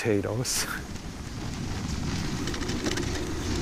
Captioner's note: snow crunching